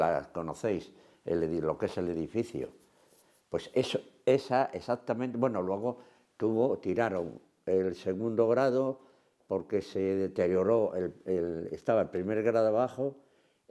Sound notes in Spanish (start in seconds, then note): none